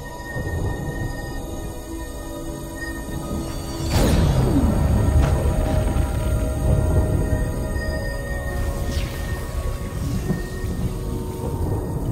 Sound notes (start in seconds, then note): 5.0 thunder rumbling